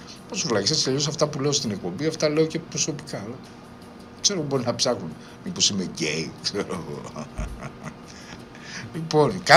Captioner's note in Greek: γέλια